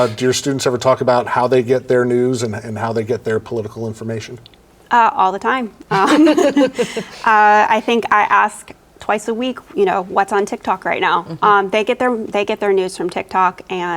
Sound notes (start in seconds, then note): 5.8 laugh